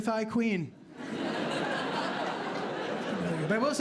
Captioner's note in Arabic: ضحك